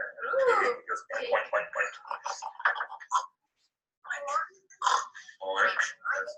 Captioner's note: imitating puppy snarling